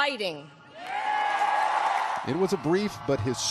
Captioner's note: applause